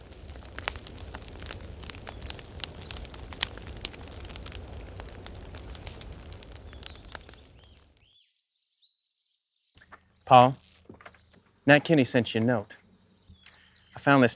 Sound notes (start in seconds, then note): 8.6 fire crackles